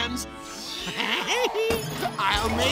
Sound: laughs

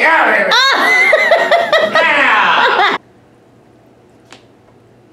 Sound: laughs

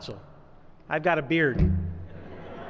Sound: laughter

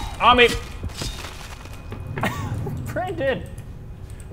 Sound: laugh

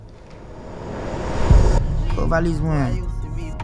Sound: ominous sound; Billy speaking in Creole

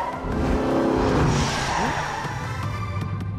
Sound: tires screeching

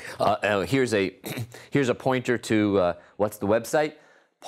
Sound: cough

